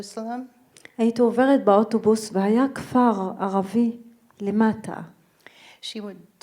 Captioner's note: speaking in foreign language